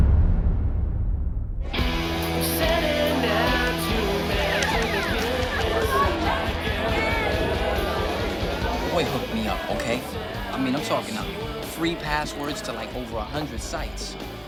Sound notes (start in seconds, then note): 1.5 partygoers chattering; 1.5 rock music playing